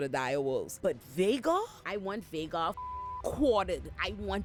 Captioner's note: beep